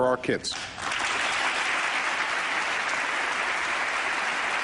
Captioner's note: applause